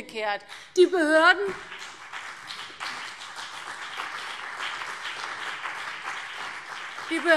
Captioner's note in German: Beifall CDU und BÜNDNIS 90/DIE GRÜNEN